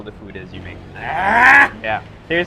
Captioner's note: grunts